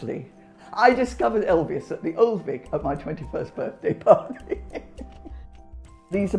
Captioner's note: laughs